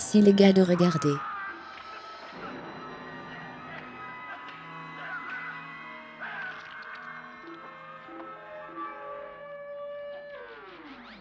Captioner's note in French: crie